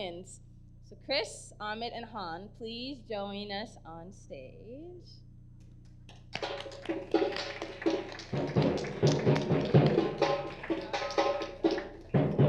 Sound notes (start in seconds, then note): 6.3 audience applause; 6.3 drumming begins